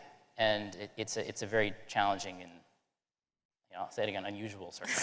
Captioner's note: laughter